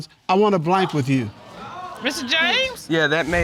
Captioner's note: audience exclaiming